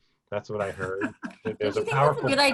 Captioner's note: laughs